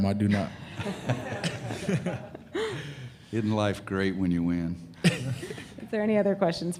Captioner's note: laughter